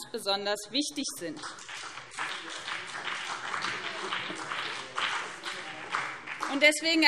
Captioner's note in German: Beifall BÜNDNIS 90/DIE GRÜNEN und CDU